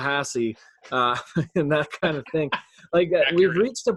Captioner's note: laughs; laughing